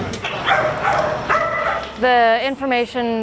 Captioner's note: dogs bark